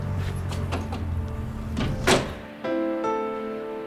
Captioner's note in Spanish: golpe de puerta; música suave de piano